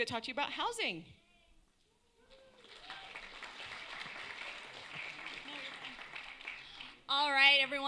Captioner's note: applause